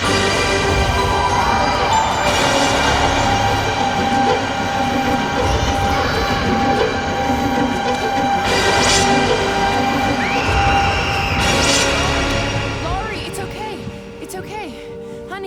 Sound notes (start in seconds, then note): 0.2 dramatic music; 6.2 Laurie screaming